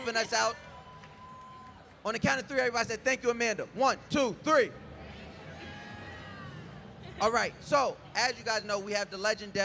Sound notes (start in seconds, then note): 0.0 crowd cheers; 5.0 crowd